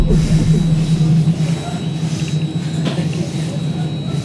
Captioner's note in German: Geräusche der Bahn